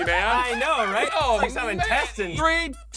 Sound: clown laughing creepily

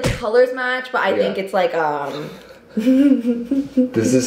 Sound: chuckles

